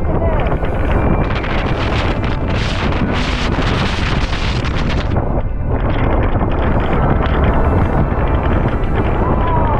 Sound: crazy wind

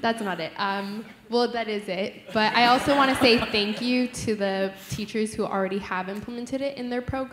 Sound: laughter

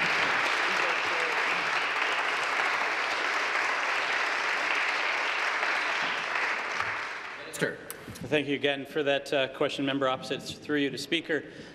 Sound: applause

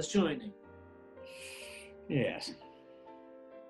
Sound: inhales

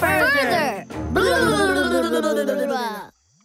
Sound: scary noises

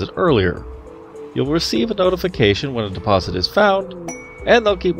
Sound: ding

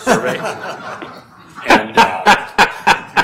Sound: laughing

